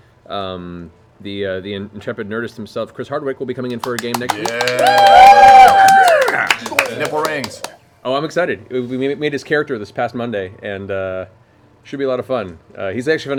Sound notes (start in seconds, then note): 3.7 cheering